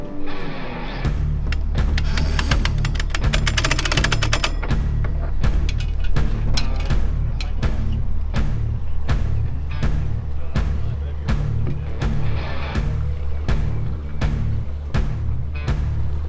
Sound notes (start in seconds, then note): 1.9 metal clicking